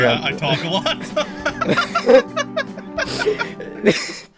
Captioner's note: both Laughing